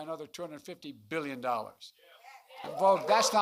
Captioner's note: applause